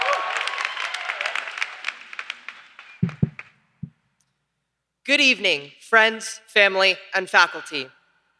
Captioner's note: applause